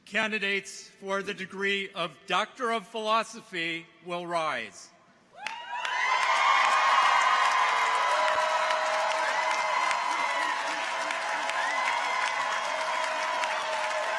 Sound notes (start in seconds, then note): 5.4 people cheer; 5.4 audience applauds